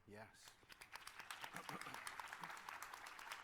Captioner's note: applause